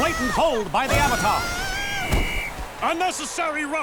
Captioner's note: screaming, whistle blowing